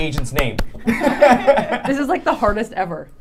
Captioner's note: laughing